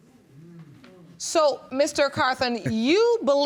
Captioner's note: laughs